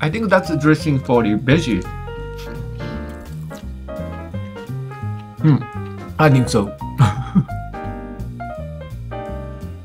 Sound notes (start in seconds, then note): 6.9 laughs